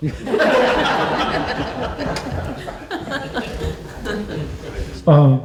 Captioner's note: laughter